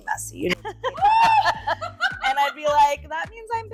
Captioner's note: laughing